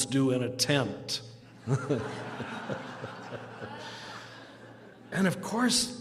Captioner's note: laughter